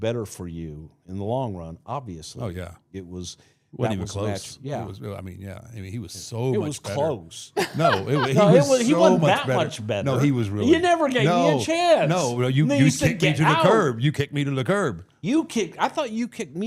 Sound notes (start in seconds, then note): 7.6 laughs